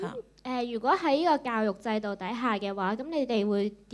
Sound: Cantonese

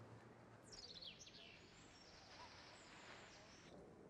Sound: birds chirping

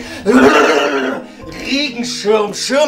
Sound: old white man noises

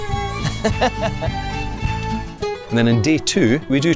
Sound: host laughs

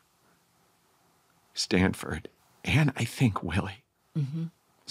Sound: choked up

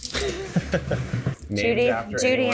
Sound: chuckling

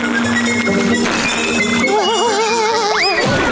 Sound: laughing

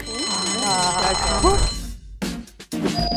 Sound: bell rings; upbeat hiphop music begins

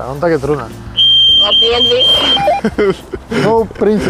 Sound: radio feedback

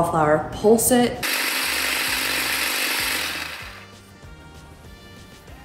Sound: food processor buzzing

